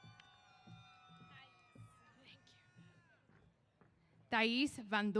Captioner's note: cheers